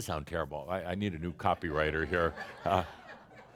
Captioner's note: laughter